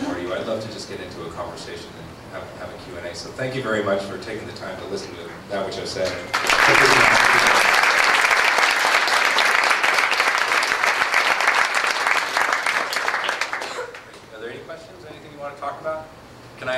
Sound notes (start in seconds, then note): 6.1 applause